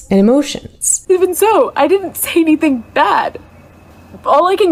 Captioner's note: choked up